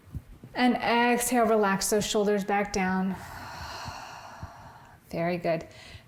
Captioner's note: exhaling